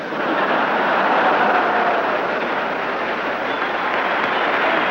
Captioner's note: audience laughing